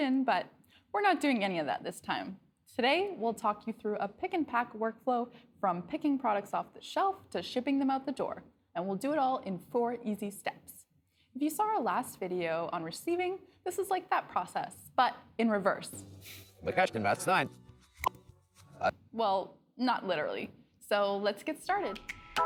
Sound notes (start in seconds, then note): 15.9 Audio from Receiving video played in reverse